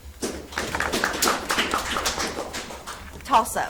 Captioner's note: audience applauds